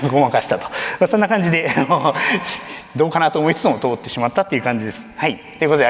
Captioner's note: chuckles